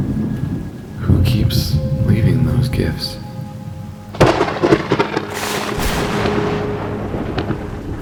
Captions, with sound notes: Who keeps leaving those gifts? [thunder crack]